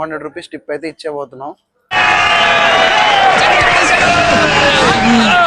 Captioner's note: cheering